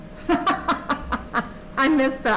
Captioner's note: laughs